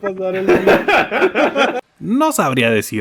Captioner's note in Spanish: Risas